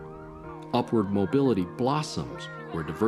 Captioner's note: children chattering